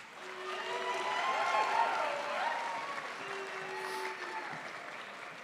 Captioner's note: crowd applauds